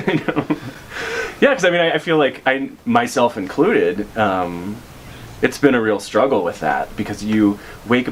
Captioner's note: laughs